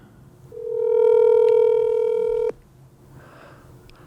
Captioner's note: phone rings